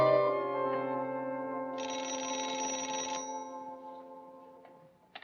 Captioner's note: telephone rings